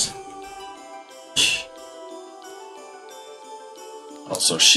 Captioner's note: laughs softly